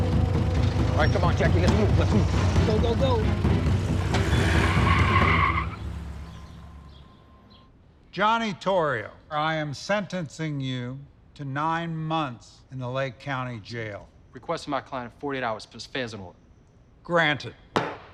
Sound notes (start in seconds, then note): 3.9 tires screeching